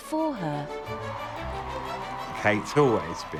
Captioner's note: crowd cheering